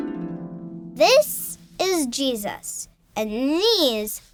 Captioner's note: harp strums; voiceover